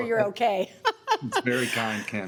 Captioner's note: laughs